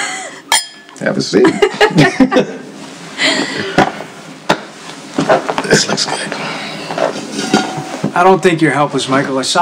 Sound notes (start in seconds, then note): 1.3 both laugh